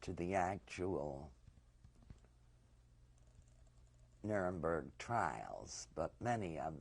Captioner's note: pauses for 3 seconds